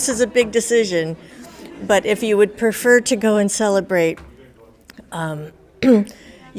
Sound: coughs

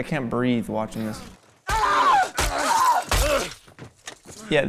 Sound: pained yelling

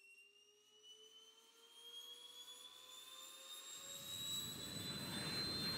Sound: jet Engine

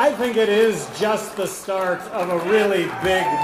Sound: applause

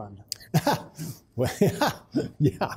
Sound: laughing

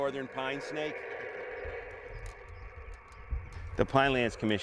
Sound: radio static crackling

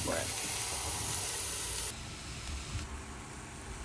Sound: food sizzling

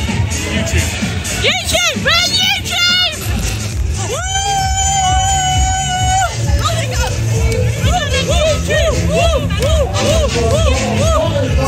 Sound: laughing

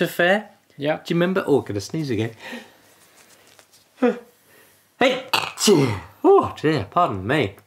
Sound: sneezes

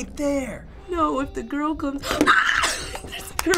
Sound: screams

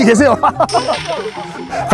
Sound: burst out in laughter

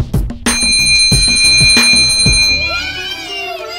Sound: fun music; several dings

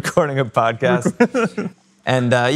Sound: laughing

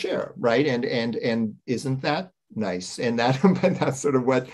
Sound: chuckles

